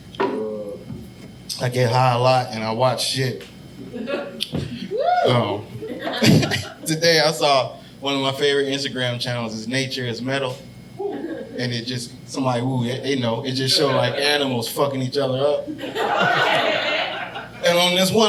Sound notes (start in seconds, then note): 4.7 audience member whooping; 5.7 all laughing; 15.4 audience laughing